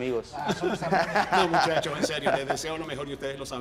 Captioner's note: laugh